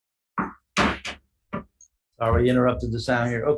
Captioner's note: gavel bangs